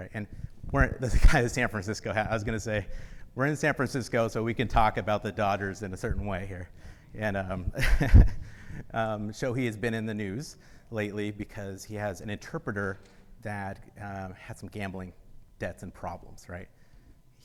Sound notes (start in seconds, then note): 7.7 laughs